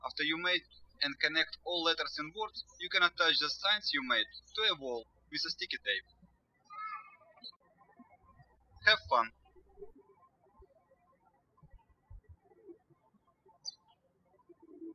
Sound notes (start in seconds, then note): 6.8 birds chirping